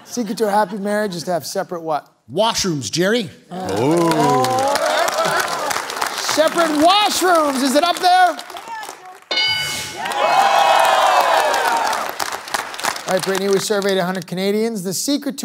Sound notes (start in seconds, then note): 3.7 applause; 7.5 bell dings; 10.0 applause